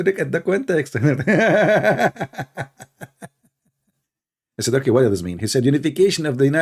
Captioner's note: Ketawa